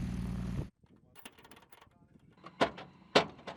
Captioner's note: plane rumbles; metal clatters